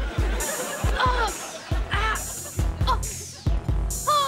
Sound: groaning

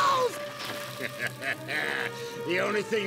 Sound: laughing maniacally

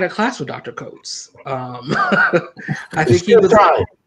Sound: laughter

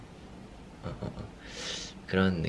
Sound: inhaling

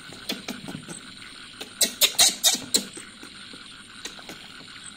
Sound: tired + monkey noises

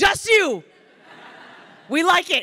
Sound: crowd laughing

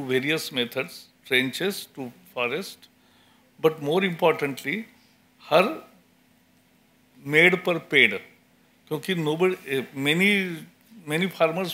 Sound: speaks in Hindi – not transcribed

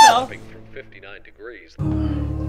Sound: screams; dramatic music

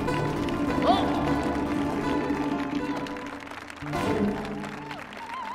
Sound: audience applauding

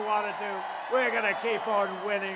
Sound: applause

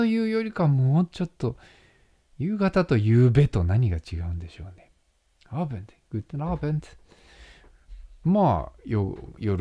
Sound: German

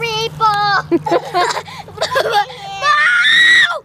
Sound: laughs

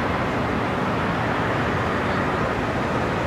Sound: city sounds and distant cars

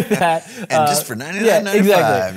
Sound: laughs

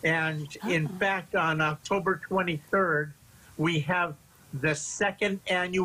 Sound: laughter

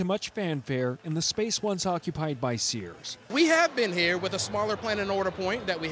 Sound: cheering

